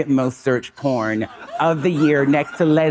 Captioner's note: audience laughing